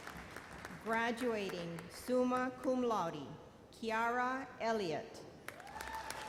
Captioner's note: applause